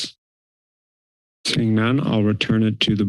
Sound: silence

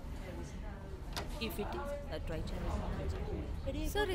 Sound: door opens

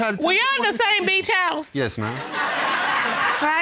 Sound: laughter

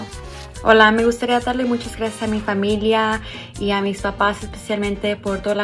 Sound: speaks in foreign language

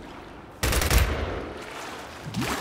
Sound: gun fires

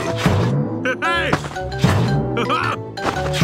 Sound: laughs

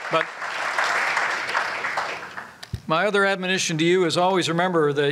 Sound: applause

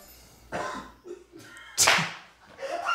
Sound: cough; laughter

